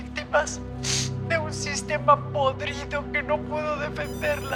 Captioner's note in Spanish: Suena un celular